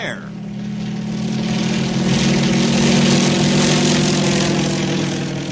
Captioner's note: engine revving